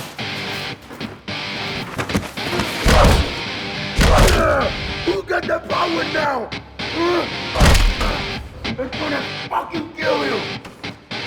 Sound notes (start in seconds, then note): 0.1 intense rock music; 1.9 blows thudding; 6.9 Esteban grunts; 11.0 intense rock music continues